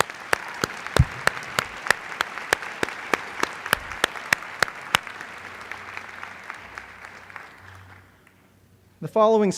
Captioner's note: applause